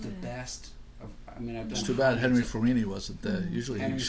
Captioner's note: voiceover